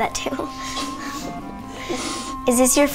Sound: girls chuckle

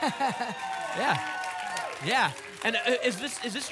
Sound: applause and cheering

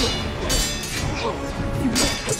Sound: grunting

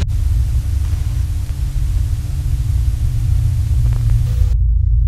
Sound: static hisses; dissonant music; static hums

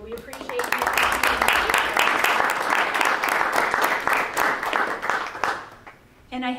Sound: drowned out by applause

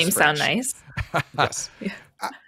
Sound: laughs

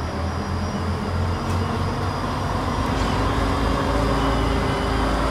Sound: large machinery/vehicle

